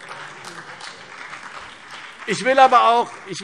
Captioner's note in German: Beifall CDU und BÜNDNIS 90/DIE GRÜNEN